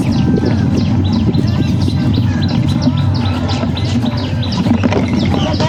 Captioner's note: birds chirping